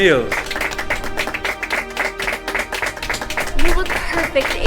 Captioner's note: guests applauding